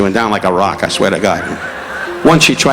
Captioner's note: audience laughing